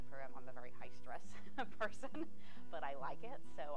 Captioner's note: laughing